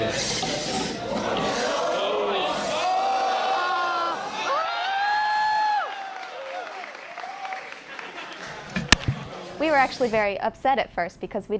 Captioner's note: cheers and applause